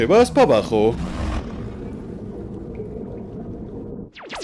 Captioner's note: Kaufmo growling; eerie low rumbling; water lapping